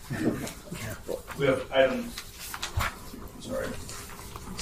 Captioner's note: pages shuffling